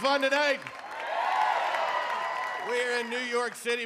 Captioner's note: audience cheering